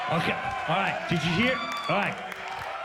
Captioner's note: audience cheers